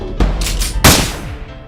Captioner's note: gun shot